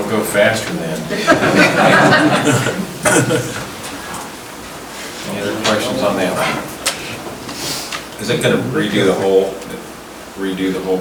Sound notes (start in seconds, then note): 0.0 chuckling; 1.0 laughing